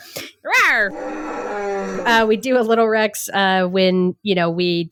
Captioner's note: dinosaur roar